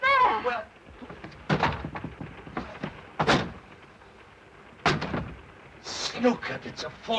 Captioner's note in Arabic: طرق على الألواح